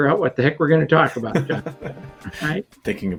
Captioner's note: laughing